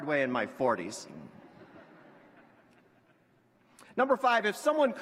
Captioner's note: laughter